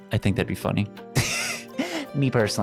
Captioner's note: laughs